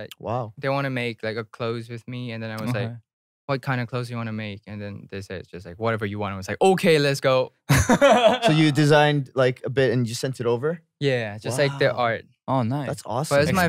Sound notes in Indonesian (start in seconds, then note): 7.7 tertawa